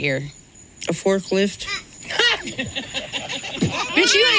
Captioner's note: all laughing